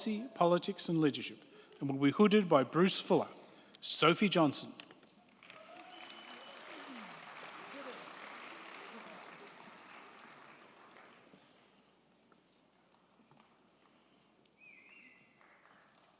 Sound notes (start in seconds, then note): 5.1 crowd clapping; 5.3 crowd cheering